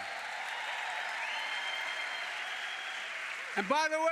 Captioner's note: applause